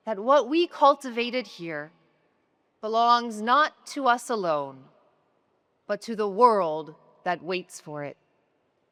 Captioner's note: none